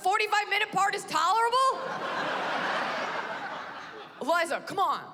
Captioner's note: laughter